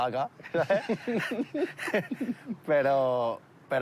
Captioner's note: laughter